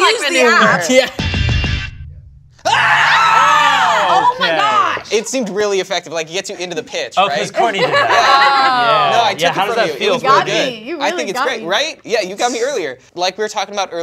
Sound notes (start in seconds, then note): 1.5 lighthearted keyboard music; 2.6 screams and runs toward other cast